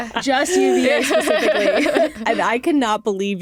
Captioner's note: laughter